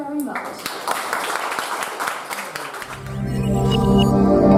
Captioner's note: audience applause